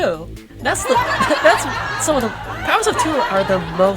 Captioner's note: laugh track